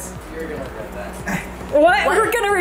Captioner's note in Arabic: يضحك